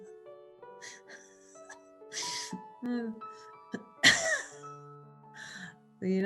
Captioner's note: laughter